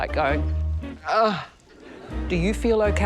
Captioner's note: grunts